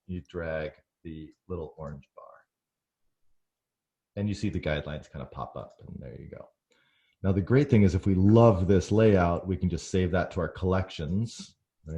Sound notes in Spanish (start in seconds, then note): none